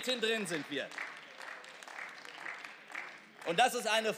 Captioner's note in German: Beifall